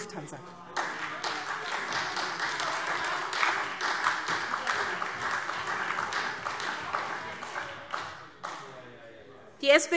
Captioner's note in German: Beifall SPD - Zurufe CDU, BÜNDNIS 90/DIE GRÜNEN und AfD